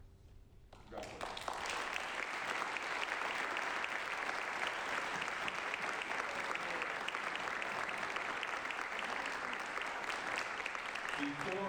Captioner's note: applause